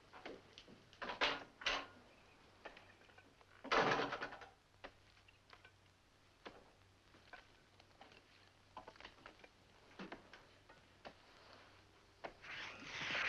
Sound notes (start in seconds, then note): 1.2 door opens; 3.7 door closes